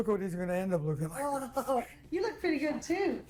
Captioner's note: chuckles